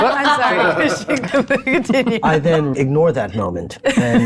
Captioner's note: laughs